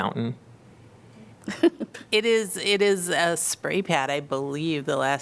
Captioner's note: laughter